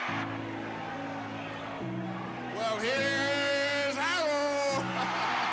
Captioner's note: crowd cheering